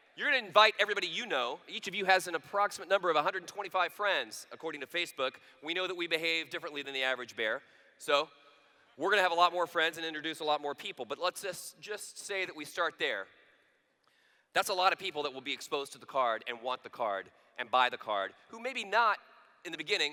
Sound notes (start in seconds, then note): none